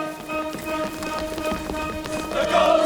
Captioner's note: footsteps clacking